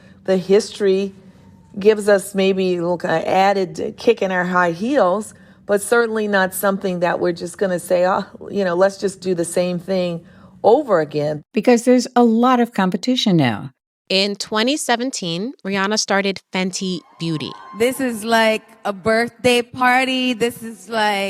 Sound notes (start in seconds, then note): 17.4 soundbite of archived recording